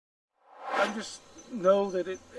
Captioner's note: air swooshes